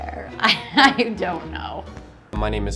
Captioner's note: laughing loudly